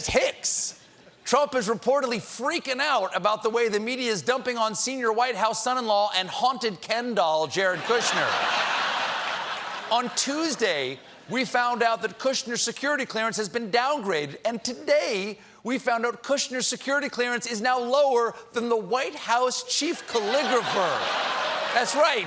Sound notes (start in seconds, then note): 7.7 laughter